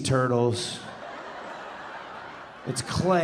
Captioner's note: audience laughing